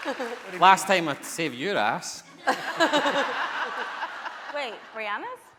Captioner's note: laughing